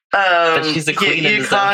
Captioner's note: laughs